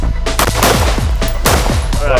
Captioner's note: gun firing